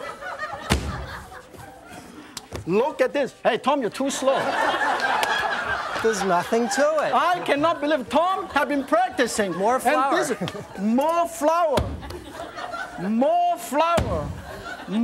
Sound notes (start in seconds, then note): 4.9 audience laughs